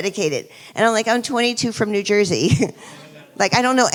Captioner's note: chuckles